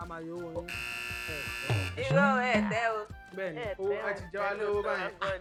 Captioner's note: buzzer pressed